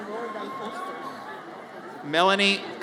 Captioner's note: audience cheers